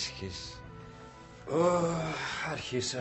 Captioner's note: nikos sighs